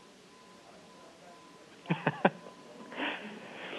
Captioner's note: laughter